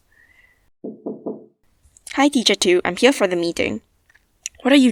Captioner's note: knocks on door and enters